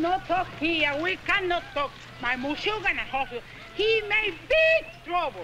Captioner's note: speaks in Spanish